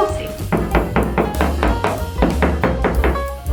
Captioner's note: hammer thuds